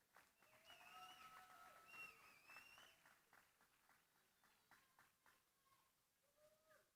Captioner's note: applause